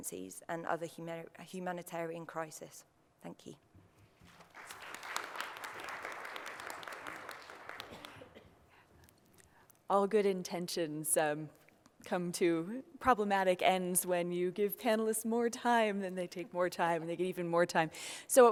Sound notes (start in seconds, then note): 4.2 applause